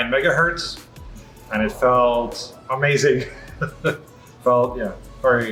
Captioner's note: laughs